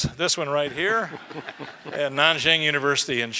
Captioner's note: laugh